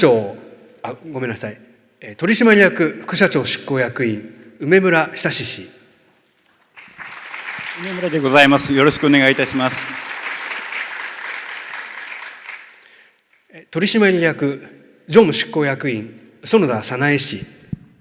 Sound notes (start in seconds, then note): 10.2 clapping sound